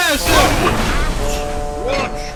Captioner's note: the trucks groan